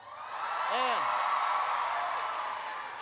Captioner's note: applause